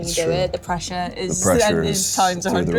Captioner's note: laughs